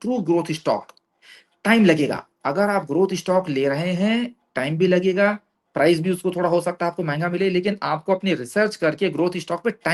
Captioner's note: none